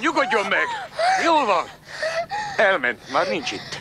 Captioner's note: sobbing